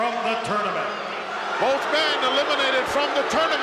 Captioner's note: crowd boos